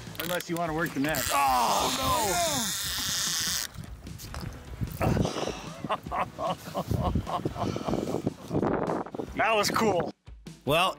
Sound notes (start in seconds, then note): 1.1 fishing reel whirring; 5.0 laughs